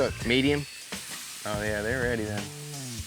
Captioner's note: sizzling sound